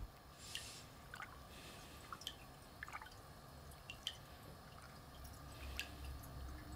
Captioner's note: water bubbling